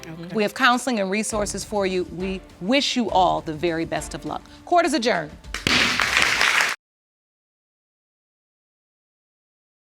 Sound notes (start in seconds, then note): 5.5 audience applaud; 5.6 bangs gavel